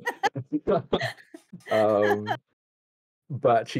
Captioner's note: laughs